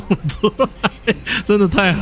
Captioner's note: laughing scene